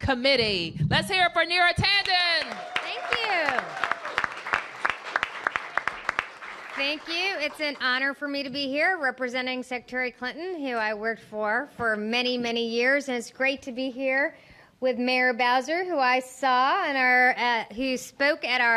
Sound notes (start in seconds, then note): 2.0 cheers and applause